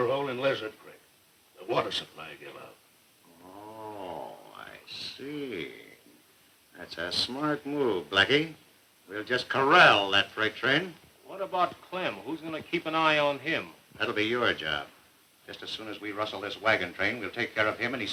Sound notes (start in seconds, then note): none